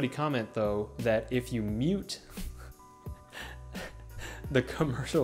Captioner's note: both laughing